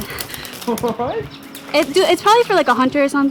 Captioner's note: Ali laughing